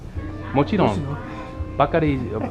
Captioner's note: japanese